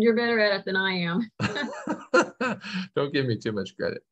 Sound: laughter

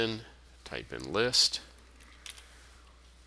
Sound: sound of typing

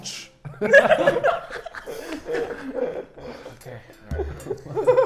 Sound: laughs

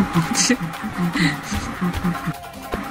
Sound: chuckles

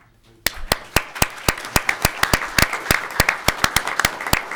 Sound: audience clapping

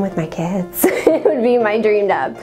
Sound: laughs

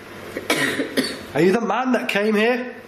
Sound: coughs

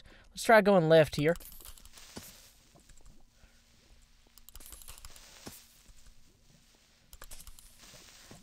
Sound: creeper hisses

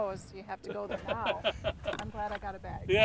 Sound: laughing

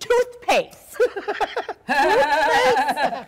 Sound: Sharik loudly laughing; doctor softly laughing

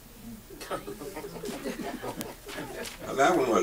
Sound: audience chuckles

